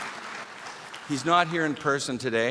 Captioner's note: applause